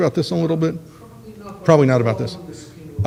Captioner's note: speaking in background